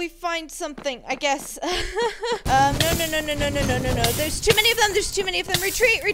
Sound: nervous laughter

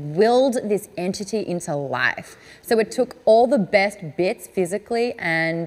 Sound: none

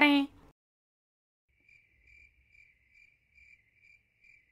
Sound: deadly Silence

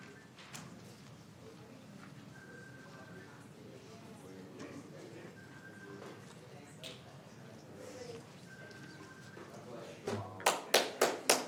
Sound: applause

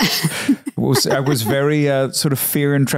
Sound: Candace laughing

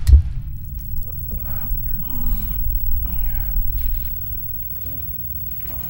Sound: loud Ringing Noise

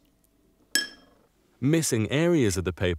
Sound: bowl thuds

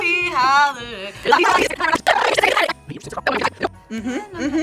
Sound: tape rewinds

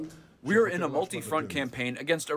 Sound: through translator

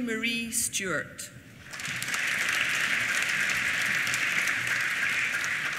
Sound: applause

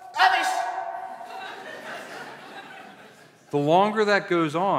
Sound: laughter

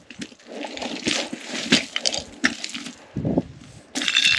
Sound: stones clattering

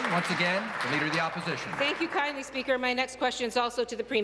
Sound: applause

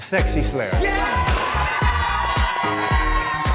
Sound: cheers

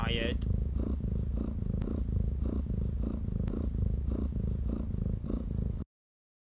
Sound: jess snoring sound

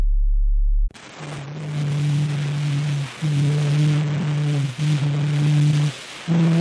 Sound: static buzzing; humming

